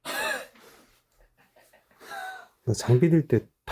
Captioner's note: laugh